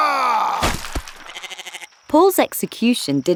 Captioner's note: Paul roaring; axe chopping; goat bleating